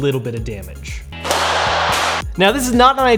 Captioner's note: slams against floor